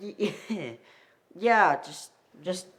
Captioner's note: chuckling